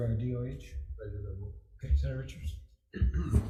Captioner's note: faintly speaking